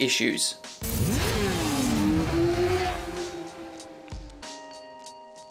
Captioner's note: motorcycle engine roaring